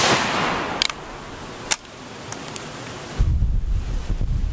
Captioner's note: gun bangs; gun cocking